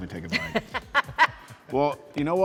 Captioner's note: person laughs